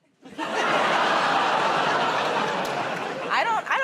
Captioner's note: laughter